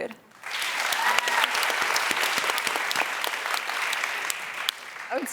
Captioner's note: clapping and cheers